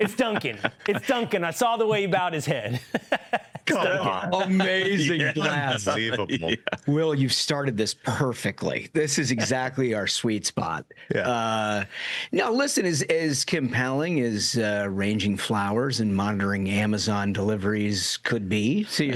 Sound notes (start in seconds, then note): 6.2 laughter